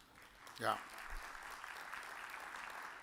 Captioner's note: audience applause